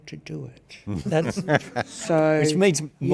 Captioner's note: participants laugh